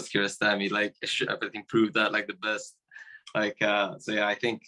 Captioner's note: voice muffling